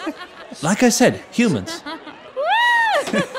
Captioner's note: through laughter